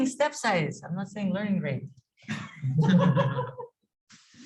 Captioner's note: laughing